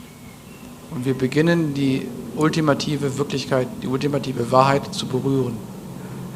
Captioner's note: German